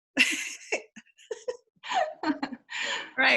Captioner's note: laughing